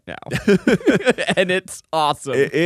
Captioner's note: laughs